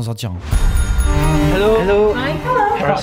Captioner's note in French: sonnette